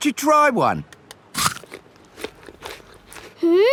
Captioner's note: crunches